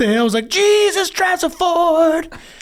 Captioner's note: laugh